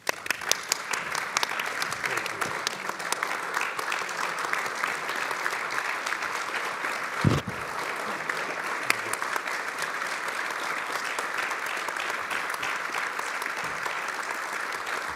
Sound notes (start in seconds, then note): 3.8 applause